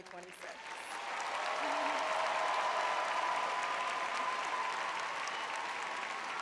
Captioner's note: audience cheering